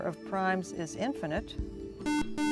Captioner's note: buzzer